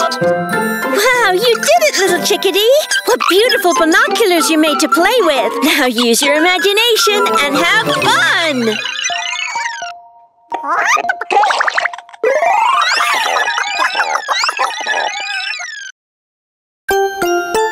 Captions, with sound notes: Wow! You did it, Little Chickadee. What beautiful binoculars you made to play with. Now, use your imagination and have fun! [chirping and clucking]